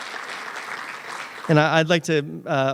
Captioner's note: applause